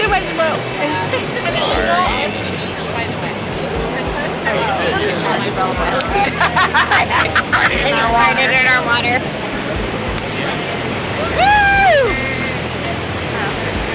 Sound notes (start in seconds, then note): 2.9 chatter; 11.1 cheering